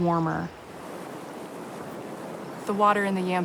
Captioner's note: rushing water